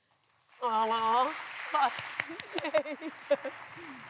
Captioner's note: applause